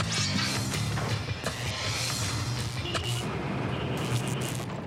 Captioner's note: electricity buzzing